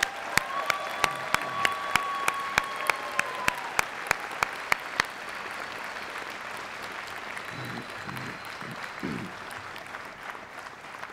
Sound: applause

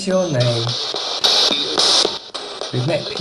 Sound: radio babbles

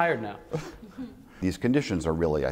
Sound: laughter

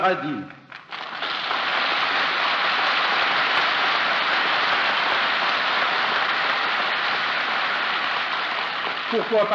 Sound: applause

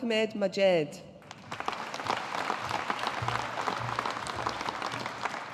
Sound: audience applauding

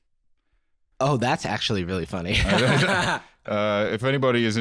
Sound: laughs

